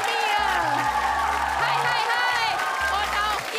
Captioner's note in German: Jubel